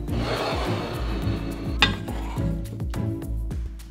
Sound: bowl sliding

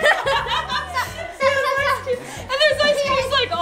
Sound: family laughing

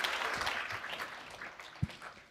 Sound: applause

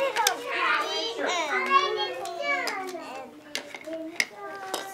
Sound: background chatter

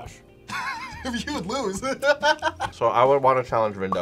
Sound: laughs

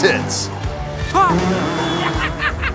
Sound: grunt; laughs

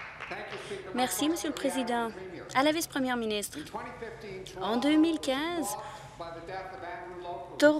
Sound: applause

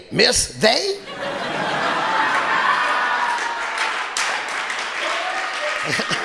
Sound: audience laughing and applauding

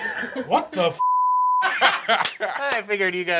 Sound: beeping

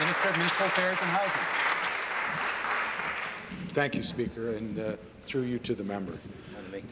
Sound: applause

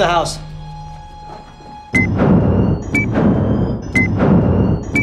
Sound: beeping

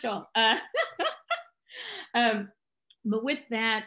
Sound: laughs

